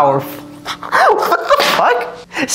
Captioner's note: cackling